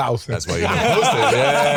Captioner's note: all laughing